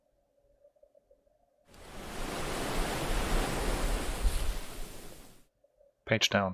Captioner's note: wave crashes